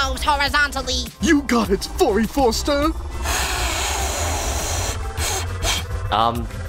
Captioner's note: blowing sounds